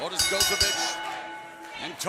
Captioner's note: bell ringing